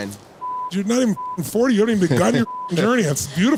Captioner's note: beep